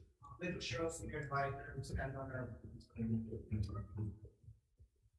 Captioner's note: man speaking faintly off mic